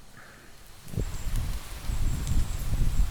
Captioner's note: rain noise